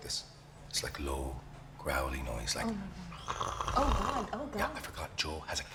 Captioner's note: growling